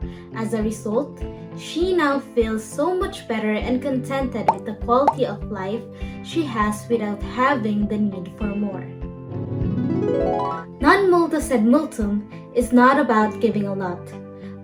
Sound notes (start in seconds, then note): 9.3 dreamy transition